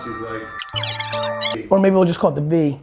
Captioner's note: fast-forwarding noise